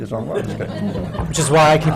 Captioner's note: laughter